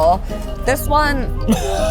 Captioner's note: chuckles